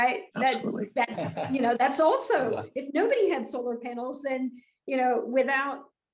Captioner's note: laugh